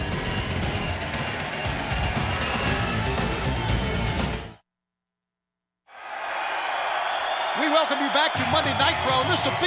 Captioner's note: crowd cheering